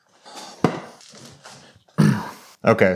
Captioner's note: sighing; stool thudding; coughing